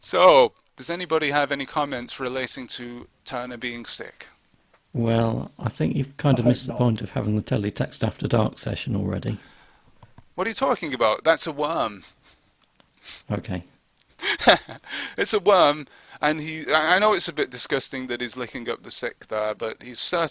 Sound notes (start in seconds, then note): 14.2 laughter